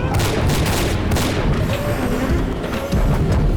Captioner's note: gunshot